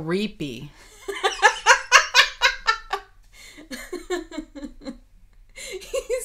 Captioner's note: laughing